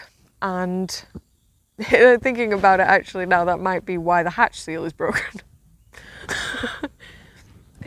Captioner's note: laughs